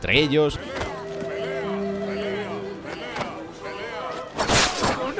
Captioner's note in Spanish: multitud